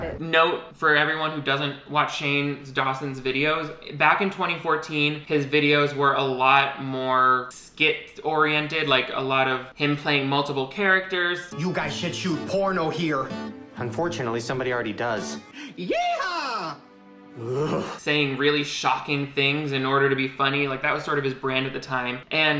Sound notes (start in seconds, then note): 17.4 Shane shudders